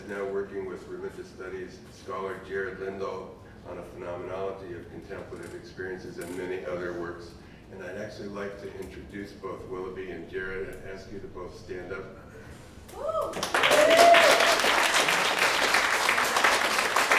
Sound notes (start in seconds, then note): 13.2 applause